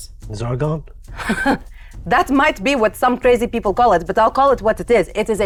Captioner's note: scoffs